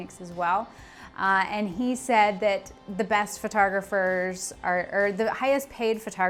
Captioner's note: stumbles over words